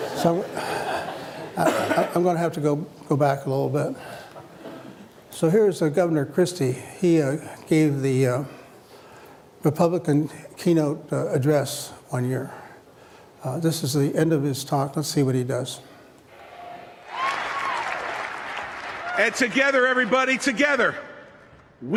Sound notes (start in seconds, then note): 17.0 applause